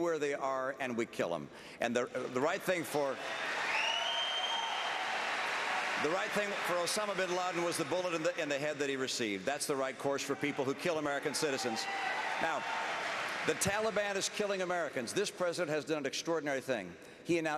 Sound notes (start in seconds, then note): 2.2 applause; 12.2 applause